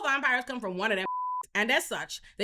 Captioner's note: beep